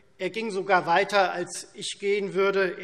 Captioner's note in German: none